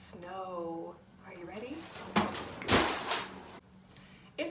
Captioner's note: sound of flip chart falling over